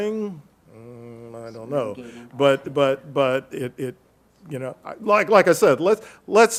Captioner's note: faintly speaking